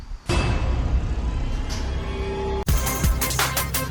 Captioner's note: horror sound effect